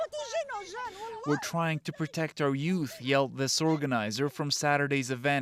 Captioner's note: crying